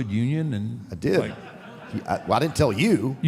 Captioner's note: audience laughs